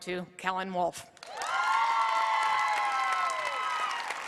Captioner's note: applause